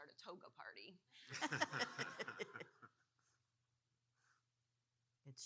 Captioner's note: audience laughing